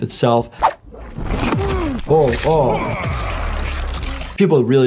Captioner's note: Omni-Man grunting